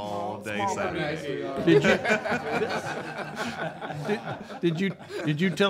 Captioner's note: audience laughing